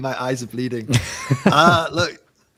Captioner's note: laughing